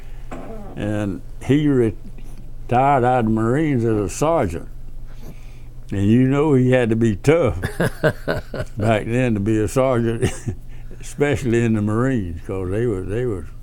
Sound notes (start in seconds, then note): 7.6 laughs